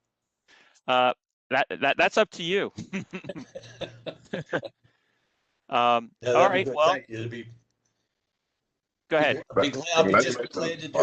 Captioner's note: laughter